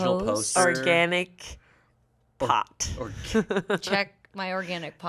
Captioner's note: laughs